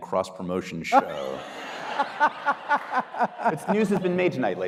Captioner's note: audience laughing